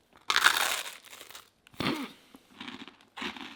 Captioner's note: bread crunching